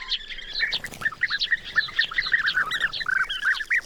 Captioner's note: birds squabbling